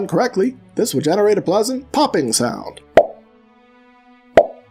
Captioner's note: pop